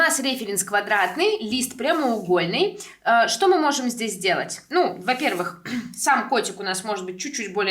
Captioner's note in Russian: откашливается